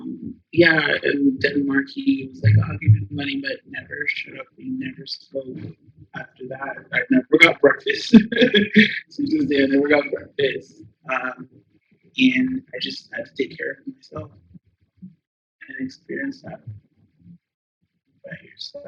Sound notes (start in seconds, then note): 10.9 laugh